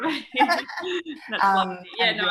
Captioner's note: laughter